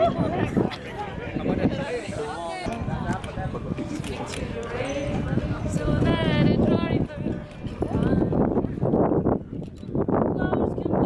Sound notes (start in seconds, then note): 4.5 crowds are chanting together; 8.5 wind is howling